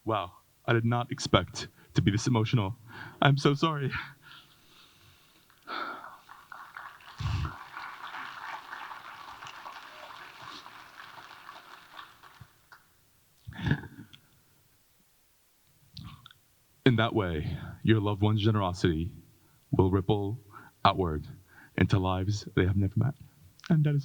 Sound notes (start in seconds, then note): 5.6 audience applauding